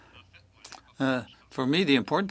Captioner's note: speaking French